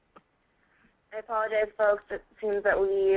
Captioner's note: voiceover